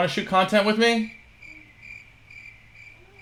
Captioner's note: cricket sound